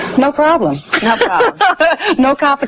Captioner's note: host laughing